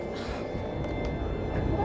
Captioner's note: pensive music; Jane sighs